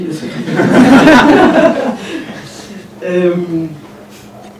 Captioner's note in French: rires